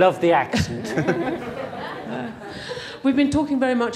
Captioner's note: laughing